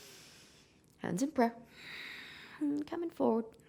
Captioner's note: exhaling; inhaling